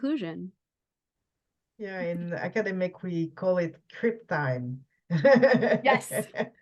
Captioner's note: laughs